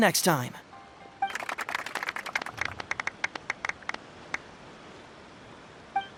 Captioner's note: applause